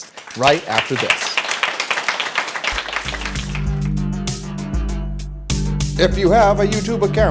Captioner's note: applause